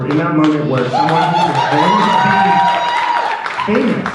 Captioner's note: audience cheering